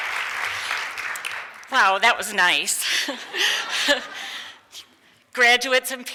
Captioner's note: laughs; audience laughs